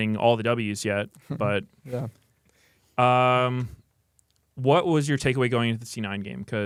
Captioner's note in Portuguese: risos